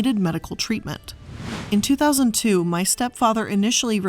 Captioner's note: air whooshing